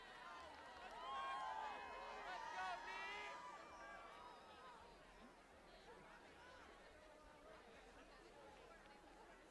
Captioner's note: applause